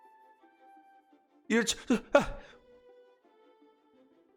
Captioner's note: stuttes